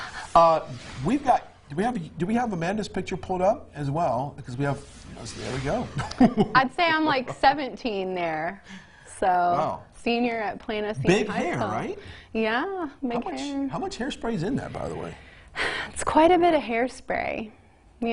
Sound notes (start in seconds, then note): 6.0 laughs loudly